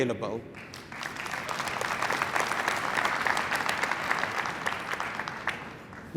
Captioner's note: applause